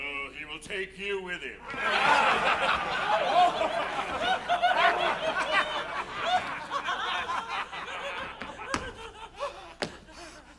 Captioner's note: pirates laughing